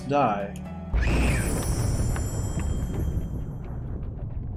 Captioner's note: thunder as Alesta screams and dies